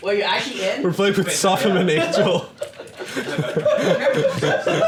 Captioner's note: laughs